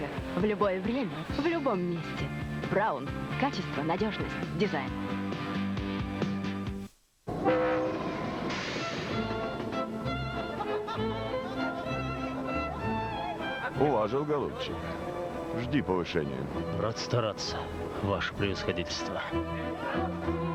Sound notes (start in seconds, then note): 7.3 locomotive whistle; 8.7 classical music